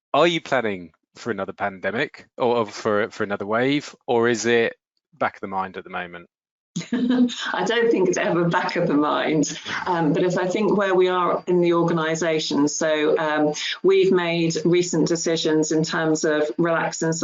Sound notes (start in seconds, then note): 9.4 laughs